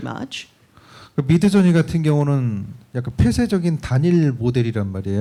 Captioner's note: speaking korean